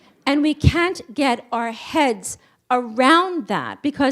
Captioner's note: none